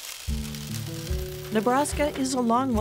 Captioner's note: grain pouring